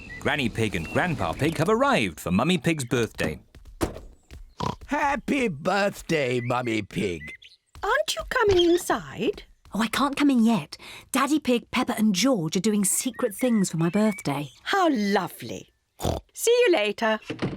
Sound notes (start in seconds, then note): 4.6 oinks; 16.0 oinks